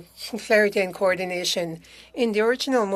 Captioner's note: speaking French